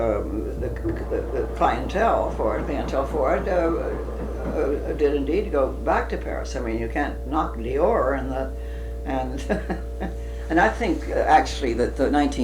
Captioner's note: laughs